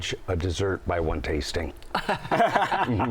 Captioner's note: laughter